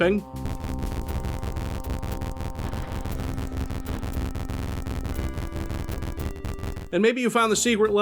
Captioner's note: failed wall interaction sound